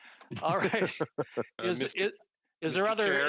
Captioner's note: chuckling